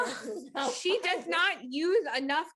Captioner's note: chuckling